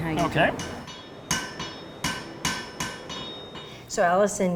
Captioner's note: repeated banging sound